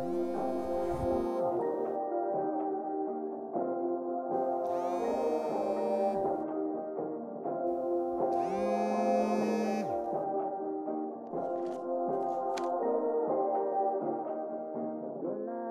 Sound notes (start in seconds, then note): 0.0 phone vibrating; 4.4 phone vibrating; 7.8 phone vibrating